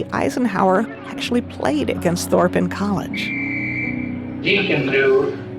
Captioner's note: whistle blowing